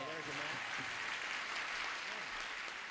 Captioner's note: applause